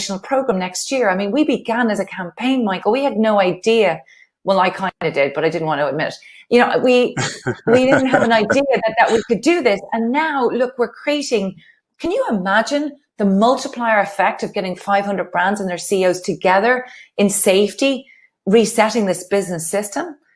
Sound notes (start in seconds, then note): 7.2 laughs